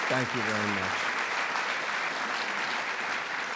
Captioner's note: applause